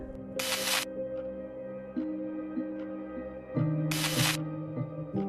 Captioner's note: digital static cracking